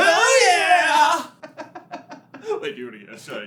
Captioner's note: so much giggling